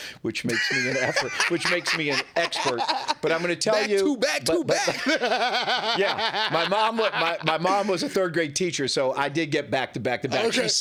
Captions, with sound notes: which makes me an expert. (laughing) But I'm gonna tell you-- Back to back, to back. (laughing) Yeah, my mom was a third grade teacher, so I did get back to back to back.